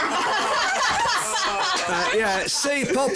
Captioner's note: laughter